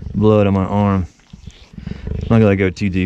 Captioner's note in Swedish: saftiga ljud